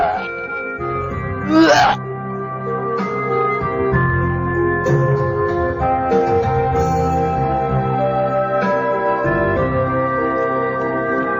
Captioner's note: retches